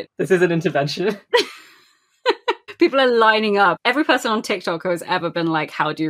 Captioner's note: laughing; laughs